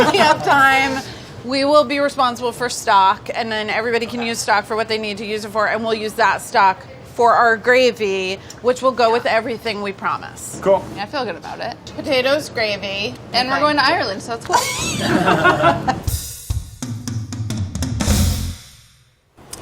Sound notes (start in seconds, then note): 14.5 laughing; 15.2 upbeat drums